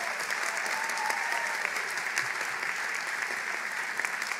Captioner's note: applause